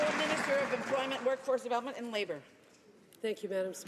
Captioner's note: some Applause